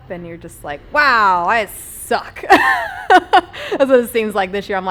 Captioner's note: laughs